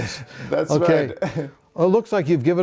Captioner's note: laughing